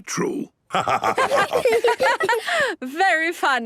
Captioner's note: laughter